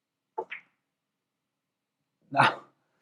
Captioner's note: ball clacks